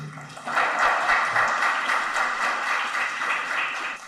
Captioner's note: audience applauds